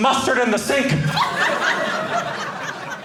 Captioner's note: audience laughing